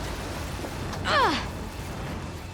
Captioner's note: grunting